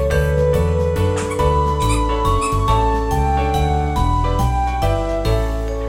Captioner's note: the sound of a puppy playing with toys